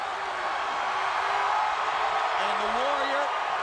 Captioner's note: audience cheering